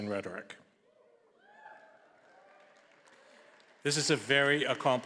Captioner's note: audience applauding and cheering